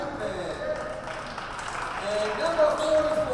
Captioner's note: crowd applauds